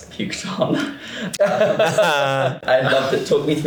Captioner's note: laughs